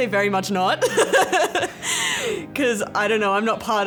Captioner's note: laughs